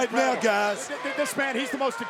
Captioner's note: overlapping chatter